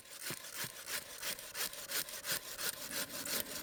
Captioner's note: saw scraping